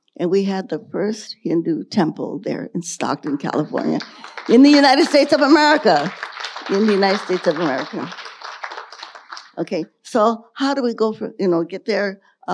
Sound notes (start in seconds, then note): 3.2 audience applauding